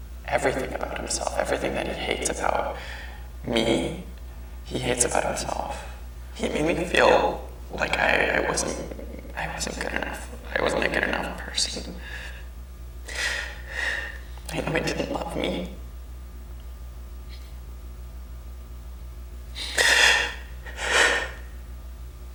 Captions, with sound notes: Everything about himself, everything that he hates about me, he hates about himself. He made me feel like I wasn't good enough, like I wasn't a good enough person. (sobs) I know he didn't love me. (crying)